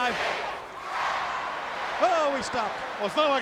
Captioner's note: crowd chanting